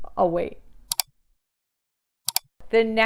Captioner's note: screen clicks